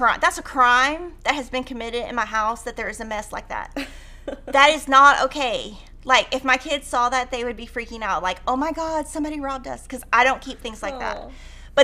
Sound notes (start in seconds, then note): 3.8 laughing